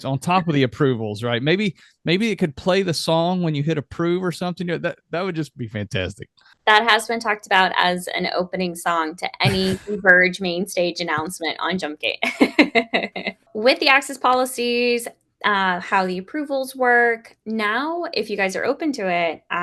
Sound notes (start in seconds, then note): 9.4 laughs; 13.0 laughs